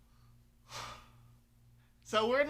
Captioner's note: sigh